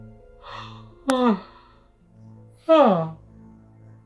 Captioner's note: Derek yawning